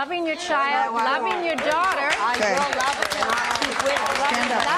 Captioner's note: applause